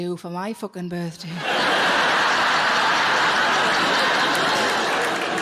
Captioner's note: audience laughing